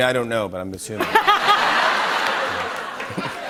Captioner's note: laughter